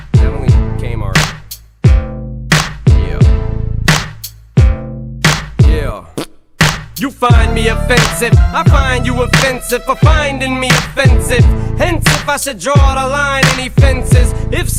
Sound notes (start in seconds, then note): 6.1 fart